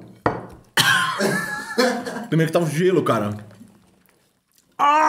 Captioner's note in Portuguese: risos